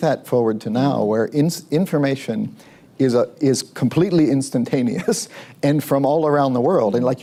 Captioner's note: laughs